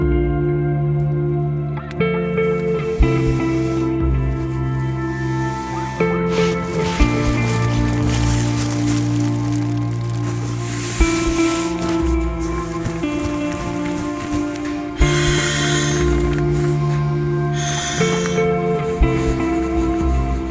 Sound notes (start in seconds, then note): 3.1 air flowing into the sleeping pad; 6.5 rustling